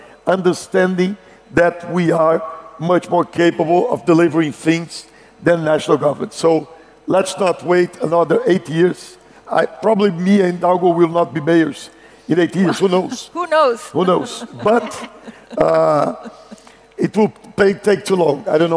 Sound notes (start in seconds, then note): 14.0 laughs